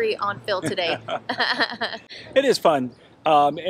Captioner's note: both laugh